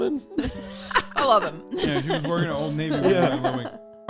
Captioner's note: laughs